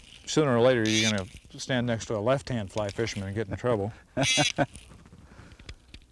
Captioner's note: laughter